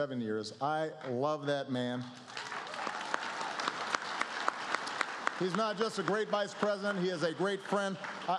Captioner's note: applause